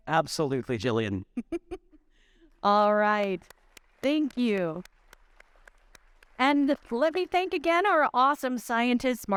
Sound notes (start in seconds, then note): 1.3 giggling; 2.6 audience applauding